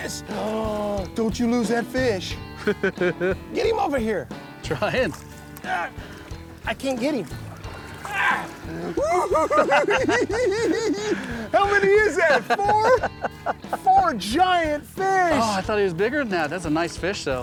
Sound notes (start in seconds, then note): 2.6 laughs; 5.7 grunting; 7.8 laughing; 8.4 giggling